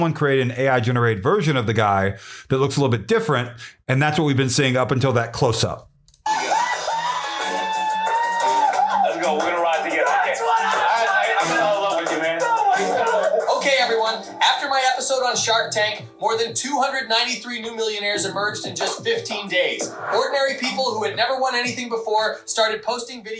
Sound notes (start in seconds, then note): 9.7 screaming